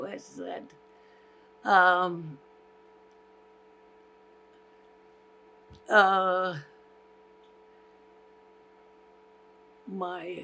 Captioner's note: pauses 8 seconds